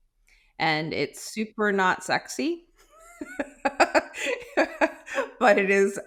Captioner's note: laughing